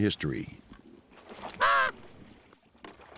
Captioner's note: caws